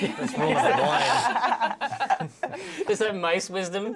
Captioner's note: laughing